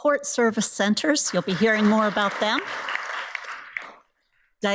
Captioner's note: audience applauds